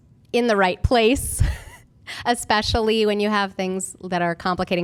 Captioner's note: laughter